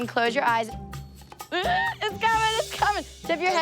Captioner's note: squeals